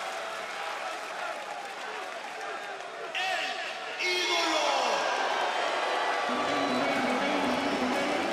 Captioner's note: crowd cheering